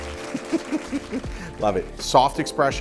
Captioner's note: audience applauds; chuckles